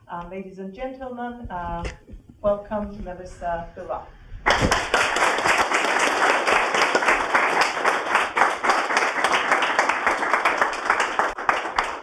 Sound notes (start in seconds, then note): 6.4 audience claps